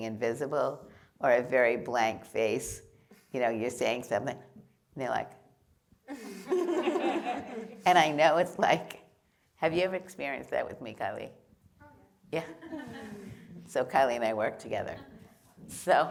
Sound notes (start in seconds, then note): 6.1 laughter; 12.4 laughter